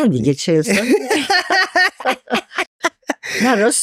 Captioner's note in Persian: خنده